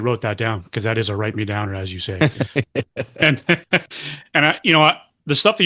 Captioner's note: laughter